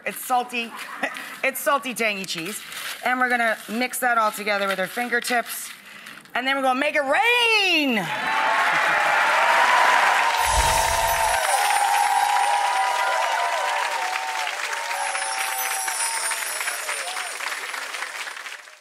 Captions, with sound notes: It's salty, it's salty tangy cheese. And we're gonna mix that altogether with our fingertips, and then we're gonna make it rain! (audience clapping) (twinkling music)